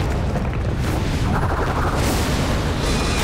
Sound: whirring

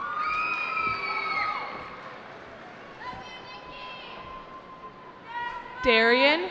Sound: cheering

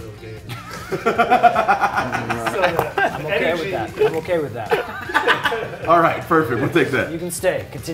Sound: laugh

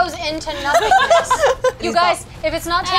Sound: laughter

